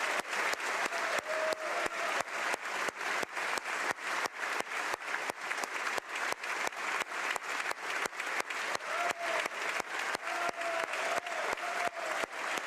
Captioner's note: applause